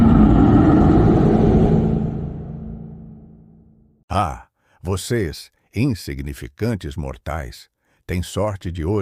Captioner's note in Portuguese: Rugído de dragão